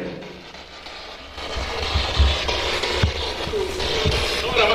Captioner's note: static buzzing